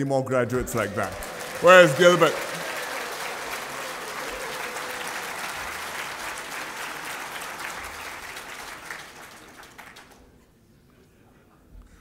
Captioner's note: applause